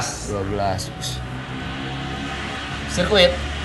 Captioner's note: motorcycle speeding sound